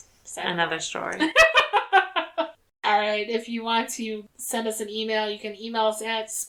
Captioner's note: laughs